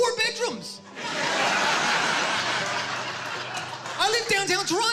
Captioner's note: applause